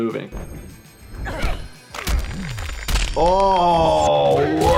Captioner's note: yelling